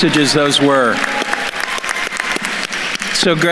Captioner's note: attendees applauding